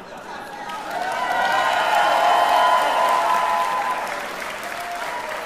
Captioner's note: cheering